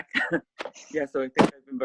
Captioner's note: chuckles